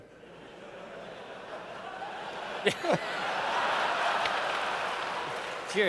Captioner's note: laughter